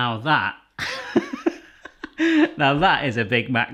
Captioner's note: laughing